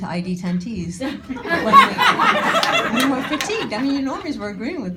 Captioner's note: audience laughing